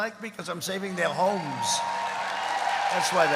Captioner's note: applause